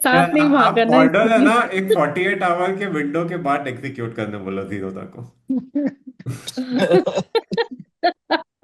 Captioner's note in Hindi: हंसी